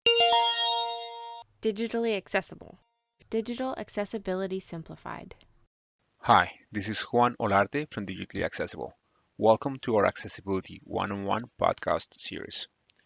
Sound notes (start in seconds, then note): 0.0 chime